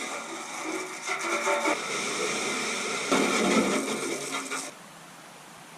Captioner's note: hose spray